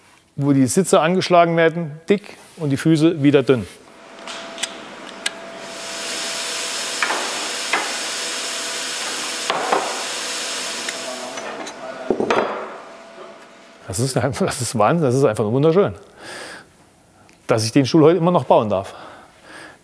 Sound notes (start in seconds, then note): 4.3 whirring and milling in the background